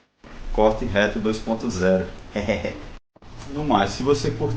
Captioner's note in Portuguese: risos